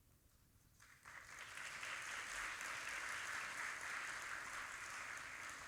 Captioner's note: audience applauding